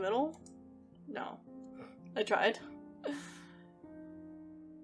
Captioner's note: laughs